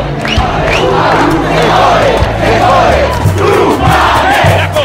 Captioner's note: chanting in Spanish